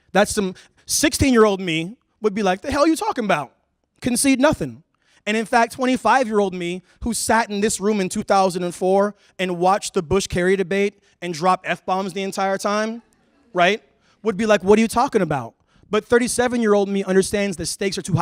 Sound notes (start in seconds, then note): none